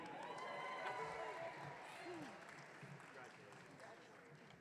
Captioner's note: audience cheering